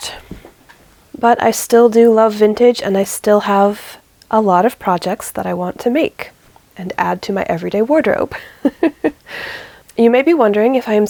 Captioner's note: laughs